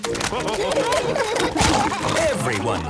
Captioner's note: splashing